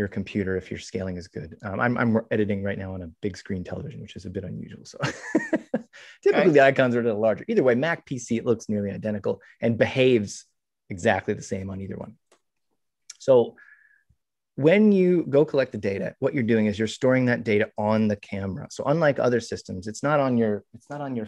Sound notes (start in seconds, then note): 3.9 laughs